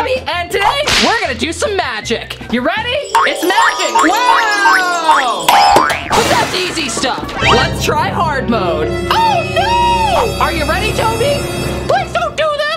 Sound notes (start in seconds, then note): 6.0 loud crashing; 9.4 dreadful music